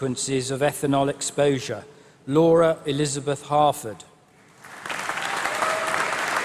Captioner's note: applause